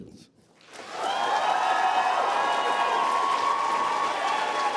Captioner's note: applause